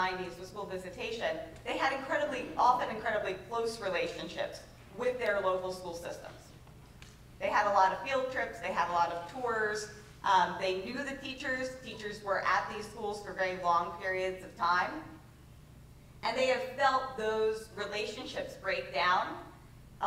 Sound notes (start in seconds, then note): none